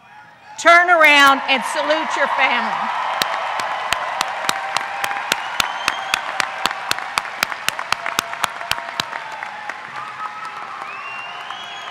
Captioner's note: applause